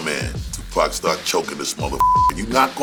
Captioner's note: beep